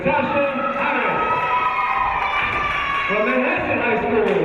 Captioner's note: cheering